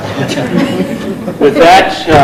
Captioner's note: laughing